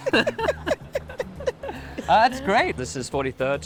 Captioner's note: laughter